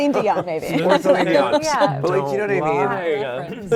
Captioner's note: everyone laughing